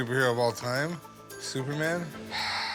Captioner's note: sighs